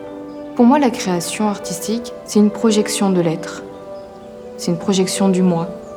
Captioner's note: speaking in foreign language continues